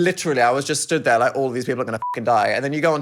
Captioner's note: beep